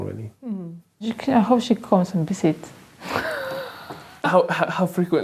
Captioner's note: she laughs